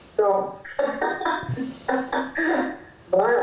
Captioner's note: laugh